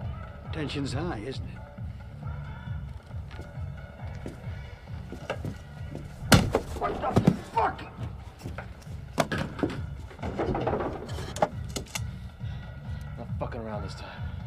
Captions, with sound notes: - The tension's high, isn't it? (whacks) What the fuck? - I'm not fucking around this time.